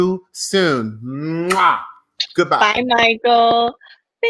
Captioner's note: blows kisses loudly